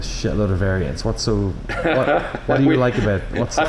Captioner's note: laughter